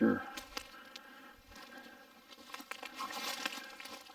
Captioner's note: twigs snapping